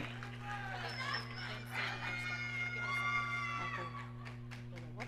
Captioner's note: audience cheering